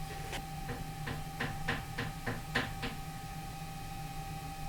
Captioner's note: light knocking sound